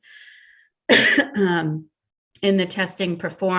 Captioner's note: coughs